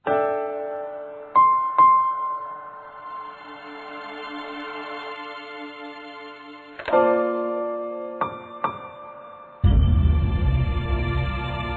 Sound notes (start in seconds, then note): 6.8 phone picked from receiver